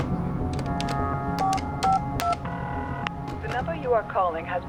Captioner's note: line ringing; beeping